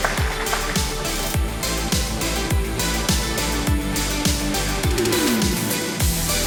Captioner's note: A round of applause and the music raises in volume; the music continues with an energetic repeating pattern